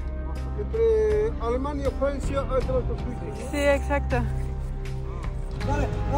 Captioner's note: in Spanish